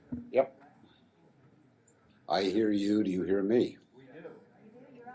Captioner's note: voiceover; crowd